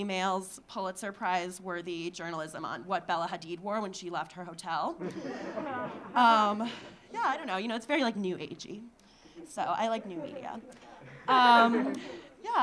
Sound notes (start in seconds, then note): 5.0 audience laughing; 9.9 audience laughing